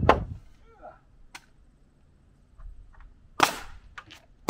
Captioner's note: groans; nail guns firing